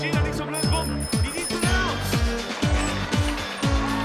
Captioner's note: speaking german